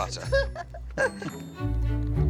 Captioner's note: laughs